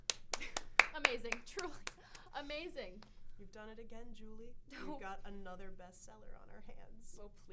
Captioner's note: clapping